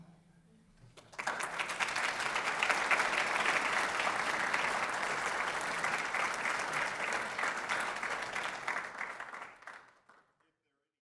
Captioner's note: applause